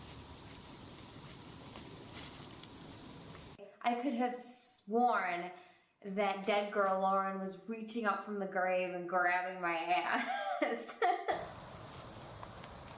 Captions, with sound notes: I could have sworn that dead girl Lauren was reaching up from the grave and grabbing my ass. (Laughs)